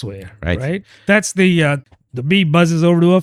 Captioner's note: uh